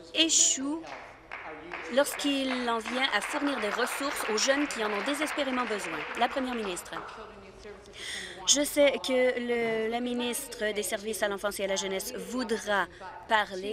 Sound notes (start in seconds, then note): 7.4 applause